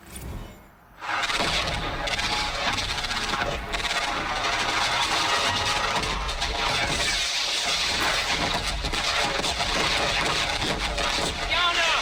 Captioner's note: sounds of battle